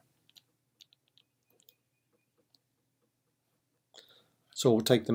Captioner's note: typing